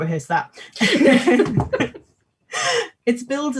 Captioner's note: laughs; both laughing